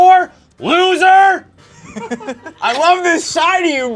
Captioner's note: laughs